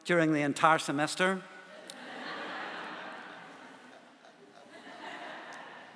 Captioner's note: laughter